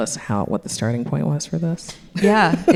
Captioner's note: laughs